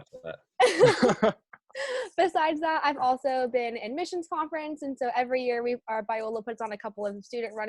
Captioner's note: laughter